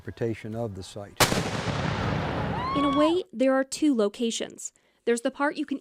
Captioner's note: canon fire